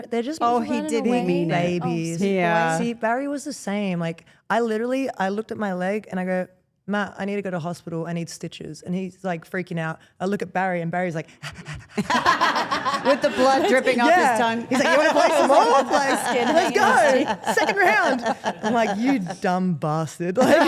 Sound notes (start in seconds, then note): 11.3 pants; 12.2 Steph and Elyse laugh; 20.4 Steph and Elyse laugh